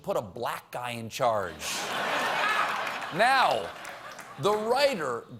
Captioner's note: laughter